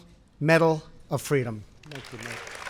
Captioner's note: applause